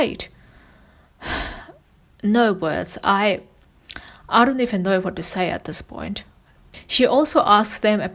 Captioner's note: sighs